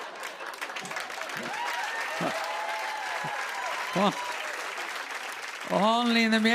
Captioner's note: laughter; cheers and applause